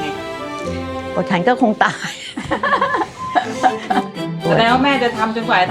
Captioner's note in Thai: เสียงหัวเราะ